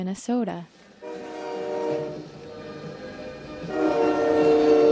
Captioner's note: train horn blowing